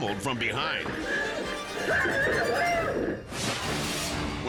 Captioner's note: dramatic music; clerk screaming; dramatic air whoosh